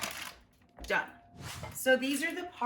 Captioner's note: air whooshes